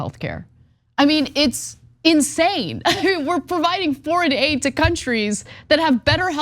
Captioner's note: laugh